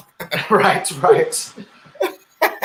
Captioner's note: laughing